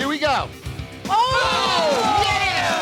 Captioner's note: cheering